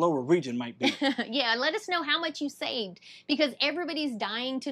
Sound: laughs

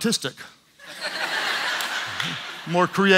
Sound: audience laughs

